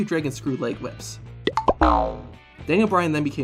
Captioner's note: cartoon sound